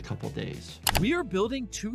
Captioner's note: mouse clicking